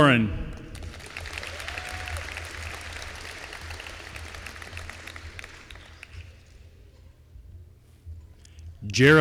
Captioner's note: applause